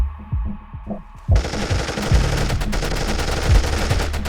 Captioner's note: rapid gunfire